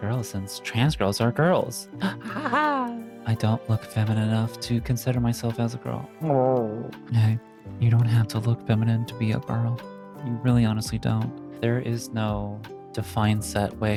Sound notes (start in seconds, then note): 2.0 laughs; 6.2 groans